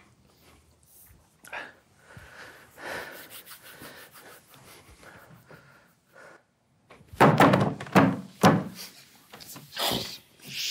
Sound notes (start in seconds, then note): 1.4 breathes heavily; 7.1 hands smacking table